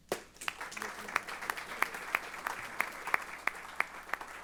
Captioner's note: applause